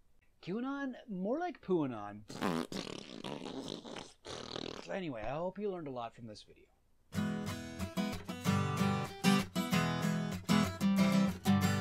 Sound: epic fart noise

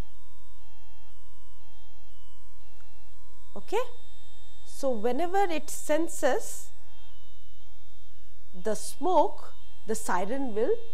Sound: siren

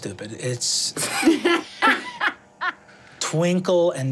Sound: laughing

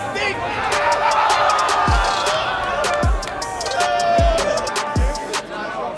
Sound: group screaming in excitement

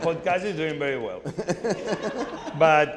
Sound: Anderson and audience laughing

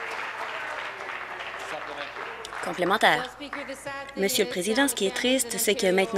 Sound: applause

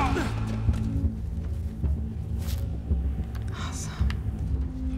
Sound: intense music; sarcastically

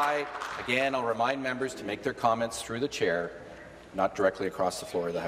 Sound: applause

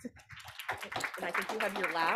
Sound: audience applauding

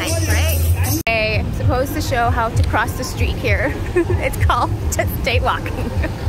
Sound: laugh

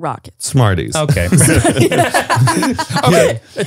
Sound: everyone laughs

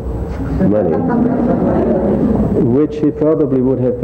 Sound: audience laughs

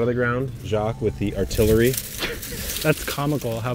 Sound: plants rustle; wheelbarrow clanks

